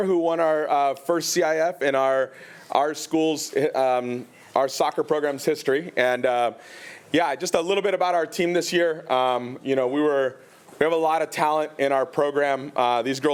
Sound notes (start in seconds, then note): none